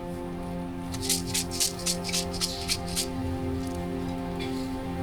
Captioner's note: seeds rattling